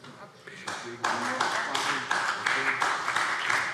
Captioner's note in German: Beifall BÜNDNIS 90/DIE GRÜNEN